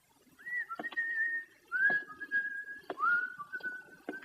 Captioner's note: continues whistling